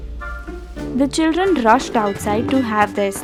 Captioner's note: school bell ringing